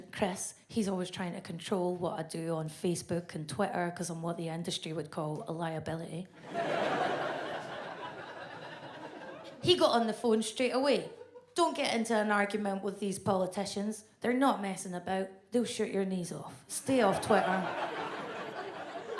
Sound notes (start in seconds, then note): 6.4 audience laughs